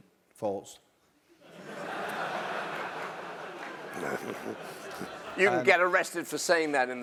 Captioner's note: laugh